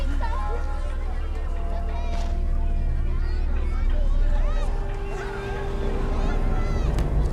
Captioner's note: children chattering; foreboding music